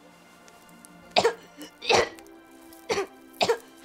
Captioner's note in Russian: Кашель